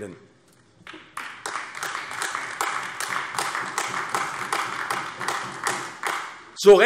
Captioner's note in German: Beifall AfD